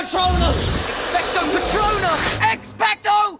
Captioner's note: magic whooshing